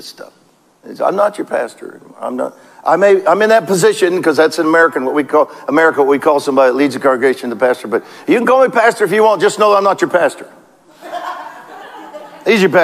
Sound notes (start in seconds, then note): 10.8 congregation laughs